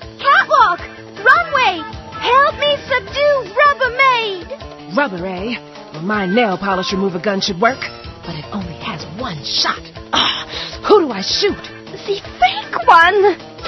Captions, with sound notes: Catwalk, Runway! Help me subdue Rubbermaid! Rubber, eh? Well, my nail polish remover gun should work. But it only has one shot. (grunts) Who do I shoot? The fake one!